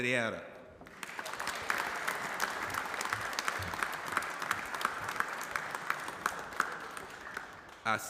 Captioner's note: applause